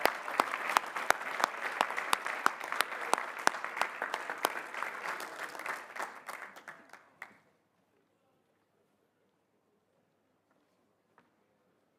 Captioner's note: applause